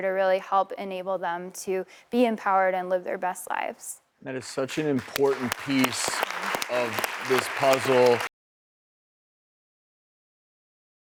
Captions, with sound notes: to help enable them to be empowered and live their best lives. (applauding) That is such an important piece of this puzzle.